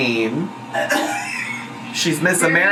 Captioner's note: laughs